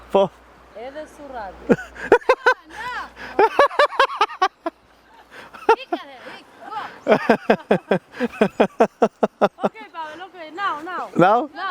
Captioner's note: laughs